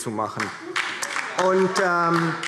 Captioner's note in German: Beifall DIE LINKE